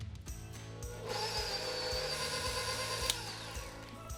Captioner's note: mixer roaring